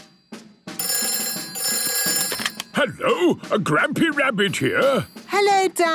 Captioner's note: phone ringing